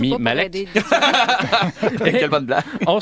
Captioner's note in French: rires